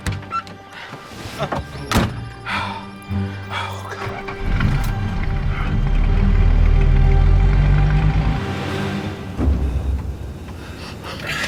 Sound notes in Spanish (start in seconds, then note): 3.3 Ruido del vehículo